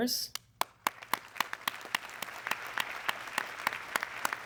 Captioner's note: audience clapping